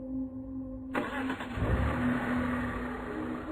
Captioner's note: car starting